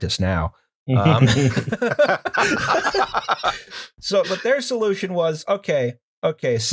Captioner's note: laughter